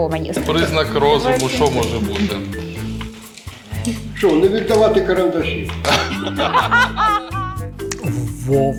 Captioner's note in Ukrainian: сміються